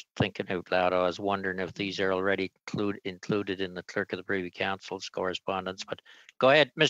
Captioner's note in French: voix de l'interprète